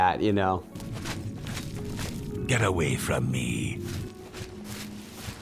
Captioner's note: sound of footsteps